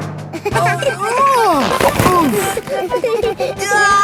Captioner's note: giggling; grunting; giggling